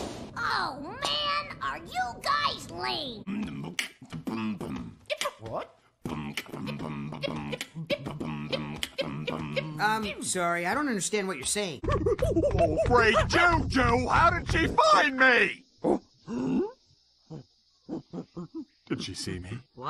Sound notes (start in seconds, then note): 3.1 both beatboxing